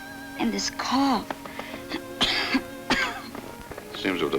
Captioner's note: coughs